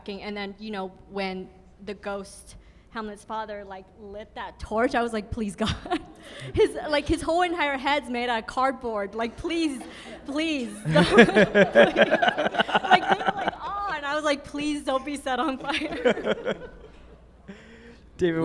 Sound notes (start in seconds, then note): 5.9 laughs; 9.7 group laughing; 15.3 group laughing continues